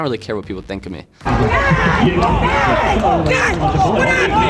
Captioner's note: yelling